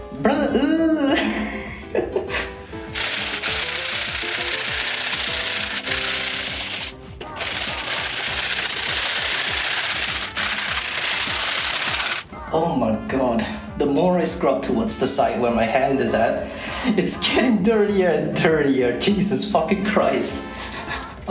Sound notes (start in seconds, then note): 1.0 laugh; 2.9 even more sped up scrubbing